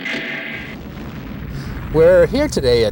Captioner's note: door creaks; bomb explodes